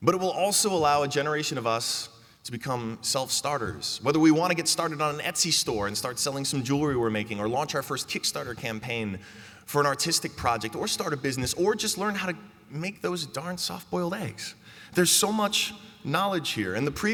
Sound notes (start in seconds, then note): none